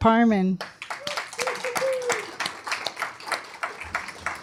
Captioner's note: applause